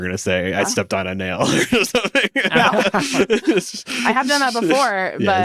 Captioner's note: laughs